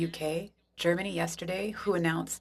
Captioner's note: speaking French